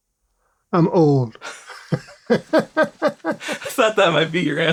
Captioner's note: laughter